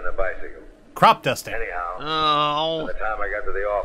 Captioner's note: groans